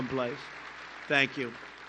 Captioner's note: applause